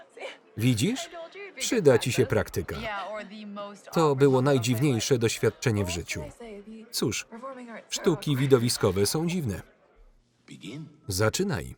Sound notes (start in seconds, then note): 8.0 laughing